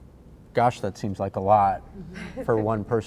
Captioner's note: chuckles